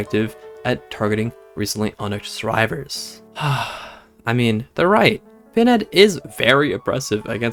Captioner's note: sighs